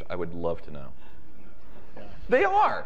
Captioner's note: chatter and chuckling in audience